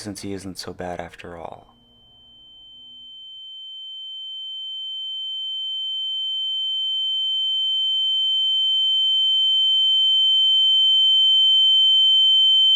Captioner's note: ear ringing sfx